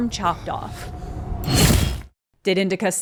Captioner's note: the loud and sudden of a blade chomping down